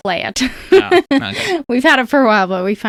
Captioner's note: laughs